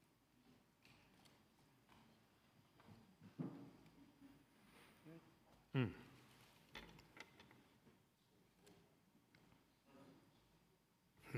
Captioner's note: silence